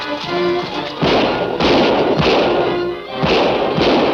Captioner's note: guns shooting